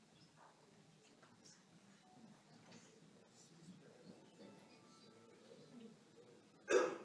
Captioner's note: audience members murmuring, making noises